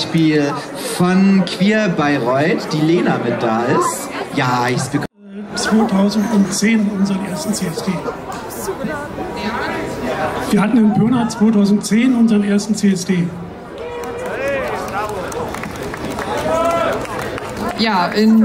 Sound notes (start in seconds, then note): 13.7 cheers